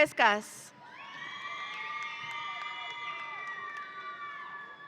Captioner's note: audience cheering